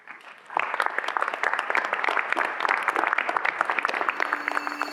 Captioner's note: audience applauding